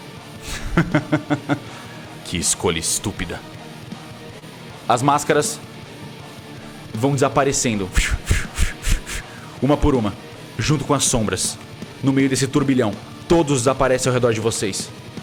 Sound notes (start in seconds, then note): 0.4 laughs; 7.9 woosh